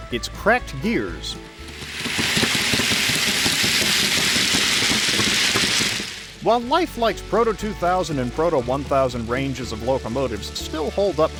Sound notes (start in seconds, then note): 2.2 kuh-thump kuh-thump kuh-thump